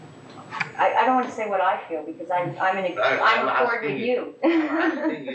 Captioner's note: laughs